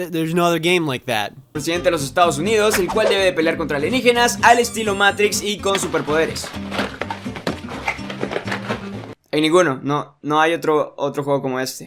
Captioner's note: Spanish